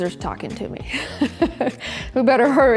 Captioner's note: laughs